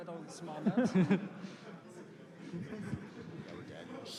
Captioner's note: laughter